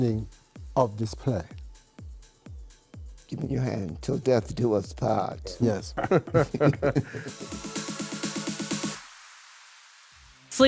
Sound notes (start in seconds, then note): 4.8 chuckling